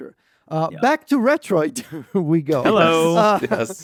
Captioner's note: laughs